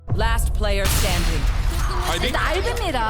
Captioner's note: gunshots